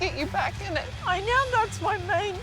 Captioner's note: voice breaking